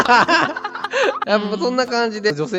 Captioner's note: laughs